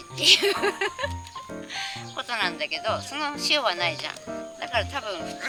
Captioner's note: laughs